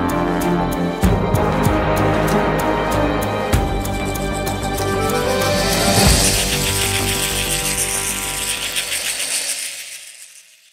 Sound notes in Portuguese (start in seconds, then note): 1.0 música intensifica; 3.8 som de chocalho indígena